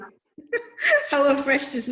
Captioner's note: laughs